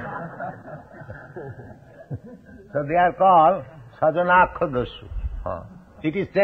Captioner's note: laughter